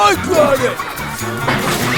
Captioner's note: crash!